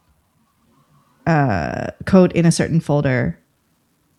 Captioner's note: uh